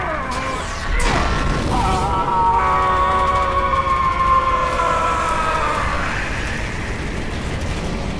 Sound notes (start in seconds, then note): 1.9 megatron screaming